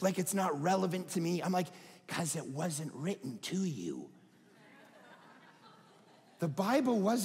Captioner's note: audience laughing